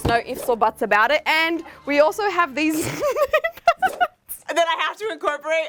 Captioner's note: giggling